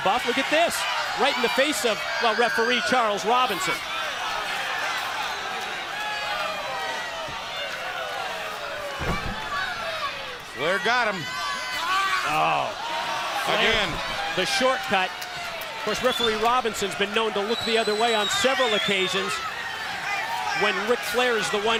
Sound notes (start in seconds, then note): 3.4 crowd chatter